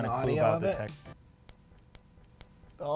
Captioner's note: snap snap snap